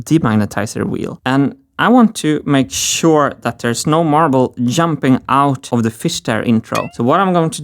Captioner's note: boing